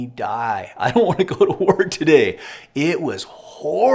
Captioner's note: laughs